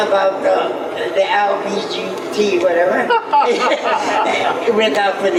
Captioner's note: laughs